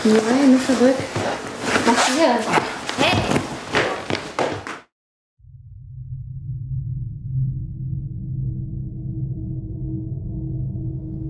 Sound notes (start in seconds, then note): 5.7 dark, evil sounds